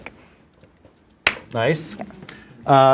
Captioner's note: hands clap